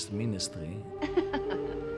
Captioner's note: laughing